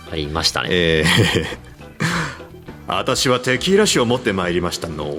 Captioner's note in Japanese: 笑い